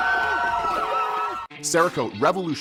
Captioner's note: cheering